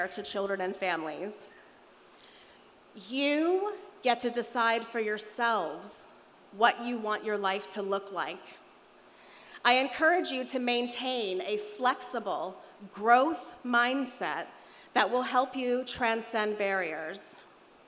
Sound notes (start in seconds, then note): none